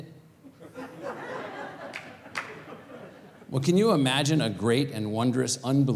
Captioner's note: laugh